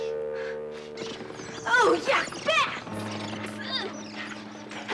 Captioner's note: bats squeaking